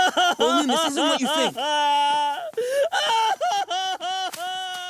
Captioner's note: sobbing